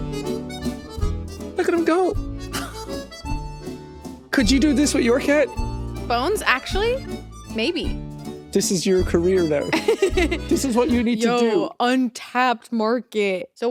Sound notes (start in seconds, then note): 2.5 chuckles